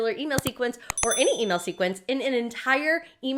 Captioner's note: high pitched tones